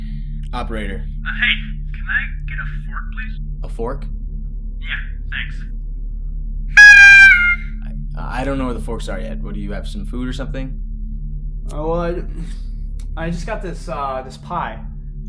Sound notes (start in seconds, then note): 6.8 loud party horn noise